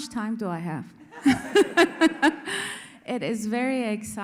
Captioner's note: all laugh